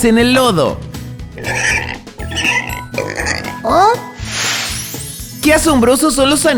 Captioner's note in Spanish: Sonido de cerdo